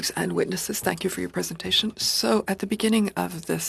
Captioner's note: speaking French